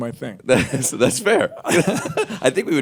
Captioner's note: laughter